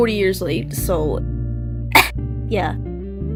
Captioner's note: cOUgH